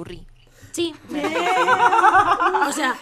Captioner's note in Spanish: risas